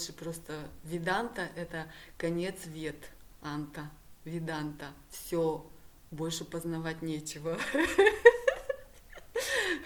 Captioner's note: hehehe